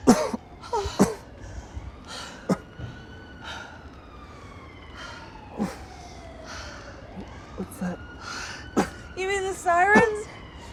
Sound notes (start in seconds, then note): 0.0 jogger panting; 0.0 Mark coughing; 8.7 coughing